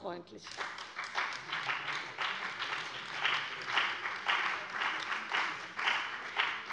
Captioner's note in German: Beifall bei der CDU und dem BÜNDNIS 90/DIE GRÜNEN